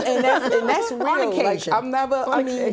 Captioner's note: laughter